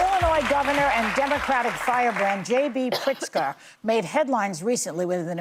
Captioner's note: applause